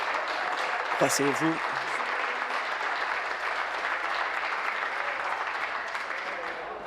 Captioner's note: applause